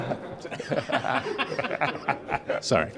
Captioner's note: laughing